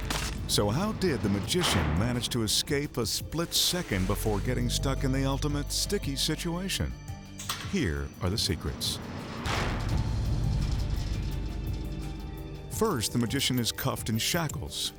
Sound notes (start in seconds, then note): 8.8 spiked panels clanking; 10.3 light mysterious music